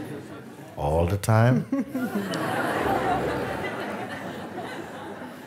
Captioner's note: Lachen